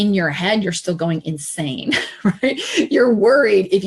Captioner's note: laughs